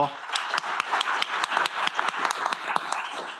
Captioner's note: applause